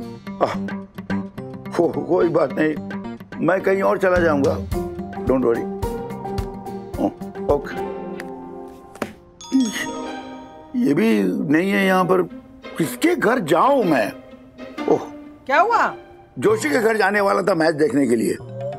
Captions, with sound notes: That's okay. I will go elsewhere. Don't worry. Okay. [phone chimes] He is not here. Whose house should I go to? What happened? I was going to go to Joshi's house to watch the match.